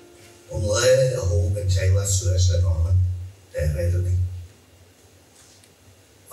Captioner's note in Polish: Po irlandzku